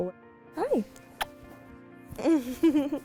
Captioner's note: laughs